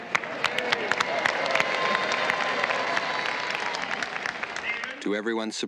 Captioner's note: crowd clapping